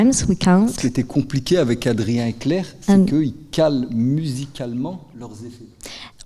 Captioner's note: speaking in French